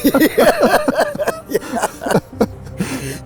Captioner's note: laughing